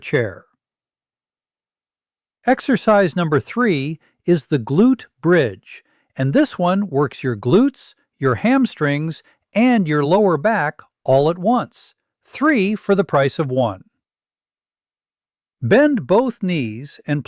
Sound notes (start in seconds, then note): 1.8 pause